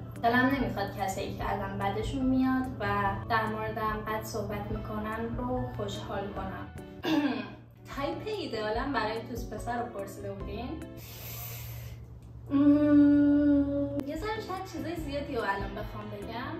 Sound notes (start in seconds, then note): 7.0 clears throat awkwardly; 11.0 inhales